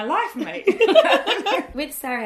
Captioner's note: laughter erupts